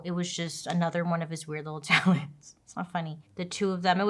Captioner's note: laughs